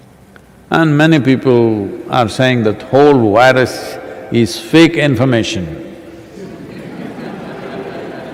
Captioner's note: laughter